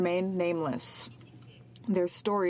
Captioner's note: speaking French